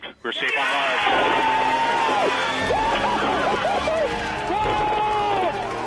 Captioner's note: enthusiastic cheering